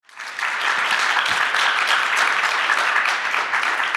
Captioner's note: audience applauds